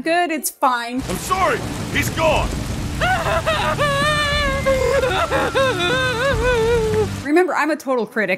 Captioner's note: woman weeps